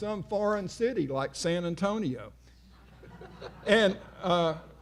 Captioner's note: audience laughing